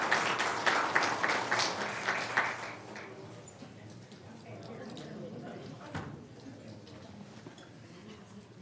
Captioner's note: applause